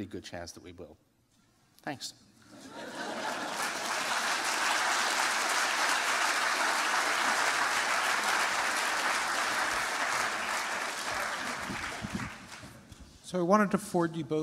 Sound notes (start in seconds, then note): 2.1 applause